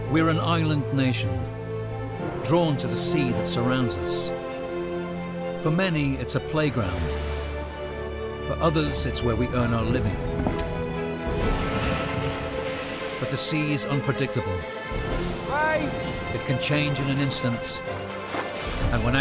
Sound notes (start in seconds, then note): 4.5 lively music; 5.8 waves crashing; 10.4 basket clattering; 11.3 waves crashing; 12.3 lively music; 14.6 waves crashing